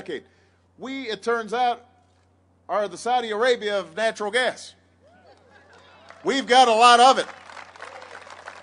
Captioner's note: applause